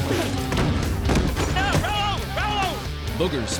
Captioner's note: shouting